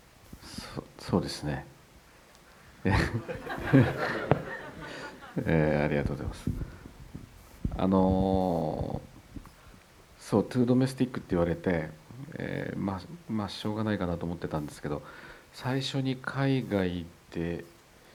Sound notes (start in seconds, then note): 2.9 Kore-eda laughs and audience laughter